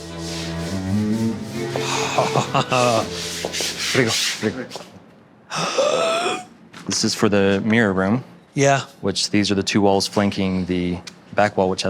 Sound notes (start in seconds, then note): 1.8 Tan laughs; 5.5 Tan gasps